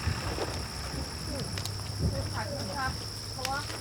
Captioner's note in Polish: grzmoty